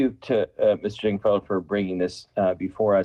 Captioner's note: ~audio distortion~